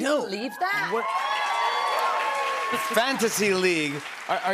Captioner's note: cheers and applause